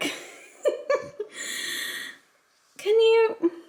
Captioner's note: laughing quietly